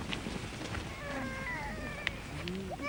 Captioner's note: baby crying